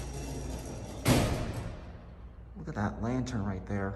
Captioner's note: bang!